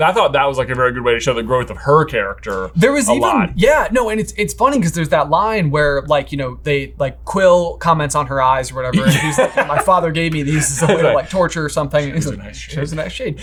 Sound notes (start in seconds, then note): 8.9 laughs